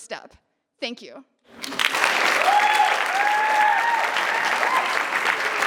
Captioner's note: cheering and applause